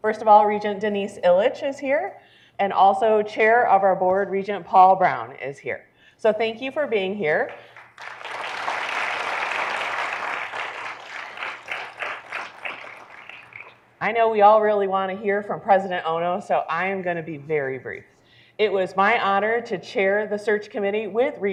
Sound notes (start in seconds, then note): 7.4 audience clapping